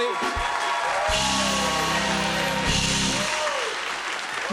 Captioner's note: cheers and applause